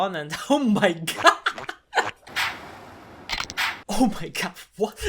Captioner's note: laughter